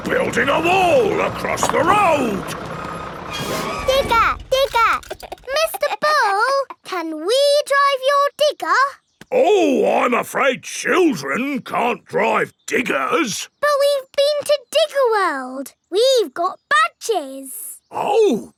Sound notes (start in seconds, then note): 5.0 chuckles